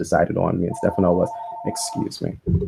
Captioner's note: phone ringer